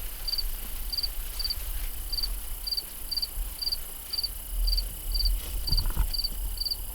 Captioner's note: crickets chirping